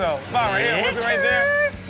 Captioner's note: Rob makes car sound effects